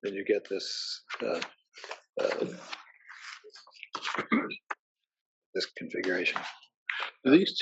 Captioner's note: cough